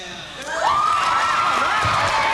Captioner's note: cheering and applause